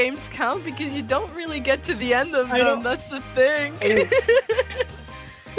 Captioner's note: laughs